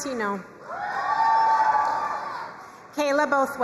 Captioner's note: crowd cheering and applauding